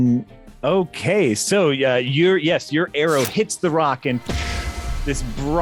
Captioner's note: pshooo